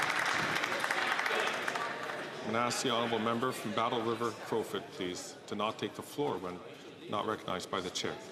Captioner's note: some Applause